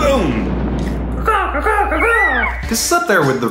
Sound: bird sounds

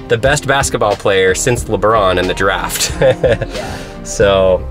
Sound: laughs

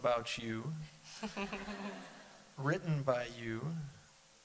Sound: laughter

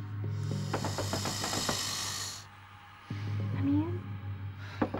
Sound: <i> frantic knocking at door</i>

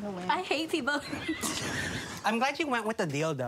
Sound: laughing

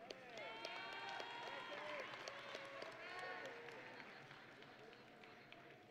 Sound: audience and graduates cheering

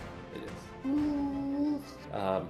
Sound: humming

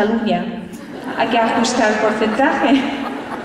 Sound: laughter

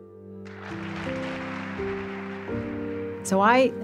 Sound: clapping

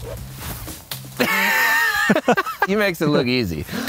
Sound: both laughing

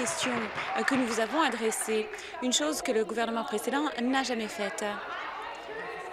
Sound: applause

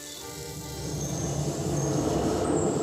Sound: banging

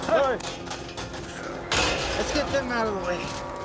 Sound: gate clanking

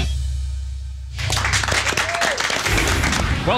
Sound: applause

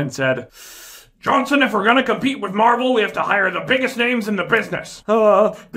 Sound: cigar puff

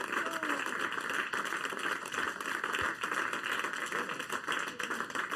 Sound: applauding

